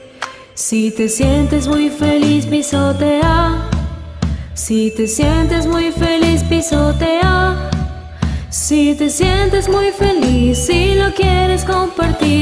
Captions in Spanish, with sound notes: Si te sientes muy feliz, pisotea (stomp stomp) Si te sientes muy feliz, pisotea Si te sientes muy feliz, y lo quieres compartir